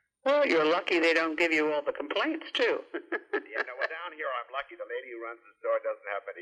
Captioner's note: laughs